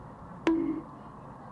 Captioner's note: bonk